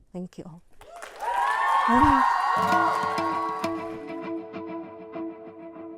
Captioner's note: crowd applauding and cheering